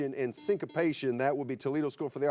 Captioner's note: buzzer beeps